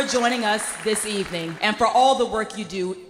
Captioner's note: applause